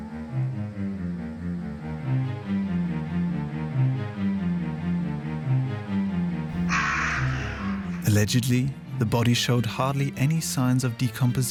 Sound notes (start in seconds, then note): 6.5 raven cry